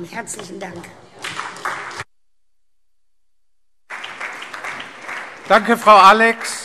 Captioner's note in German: Beifall SPD und Freie Demokraten